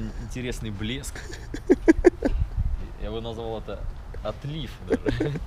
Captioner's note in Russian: смех